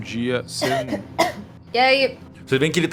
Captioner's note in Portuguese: tosse